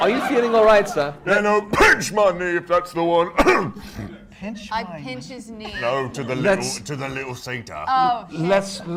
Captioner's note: coughs